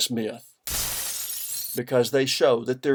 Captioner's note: crash - breaking glass